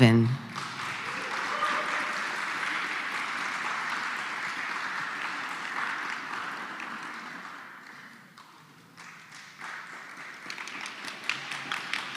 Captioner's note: applause